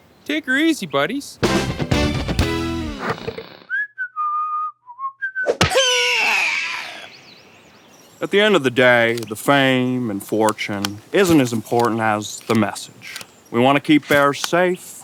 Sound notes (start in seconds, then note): 3.6 whistling; 5.7 scream! Eagle screaches